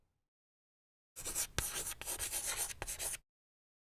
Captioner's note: writing on chalkboard